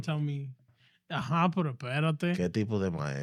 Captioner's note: speaking In Foreign Language